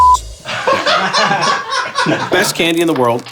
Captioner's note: hysterical laughter